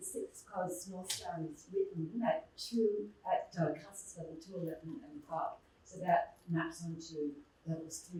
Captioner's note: muffled voice